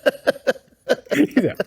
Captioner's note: laughter